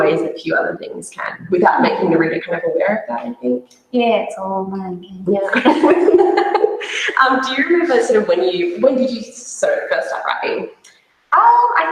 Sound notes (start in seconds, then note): 5.5 both laugh